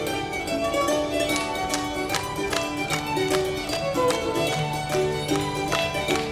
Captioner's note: rhythmic clapping